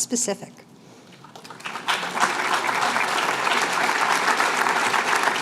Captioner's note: applause